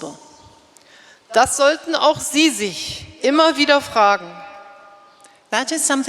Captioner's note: speaking in German